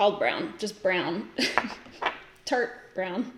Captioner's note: giggles